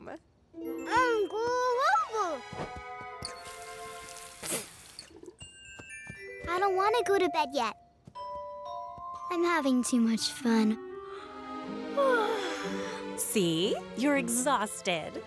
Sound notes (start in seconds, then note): 3.4 running the water; 4.4 spitting; 5.0 turning water off; 12.0 yawning